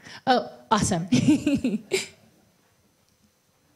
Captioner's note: laughs